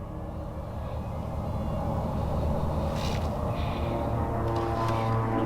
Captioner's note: loud airplane whirring